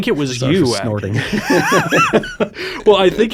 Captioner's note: both laughing